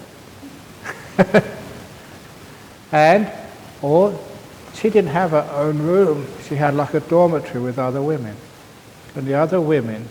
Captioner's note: laughter